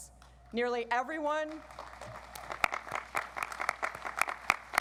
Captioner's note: audience applauds